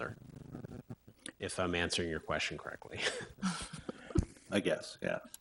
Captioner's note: laughs